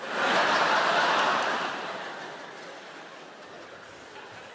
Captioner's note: audience laughing